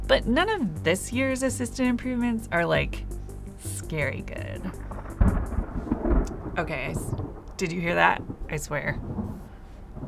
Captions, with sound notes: but none of this year's assistant improvements are like, scary good. (thunder rumbles) Okay, did you hear that? I swear.